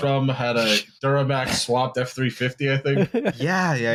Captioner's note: laughs